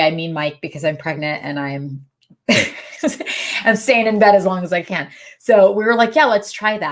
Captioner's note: laughs